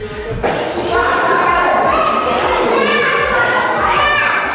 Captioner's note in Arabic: الضيوف يتذمرون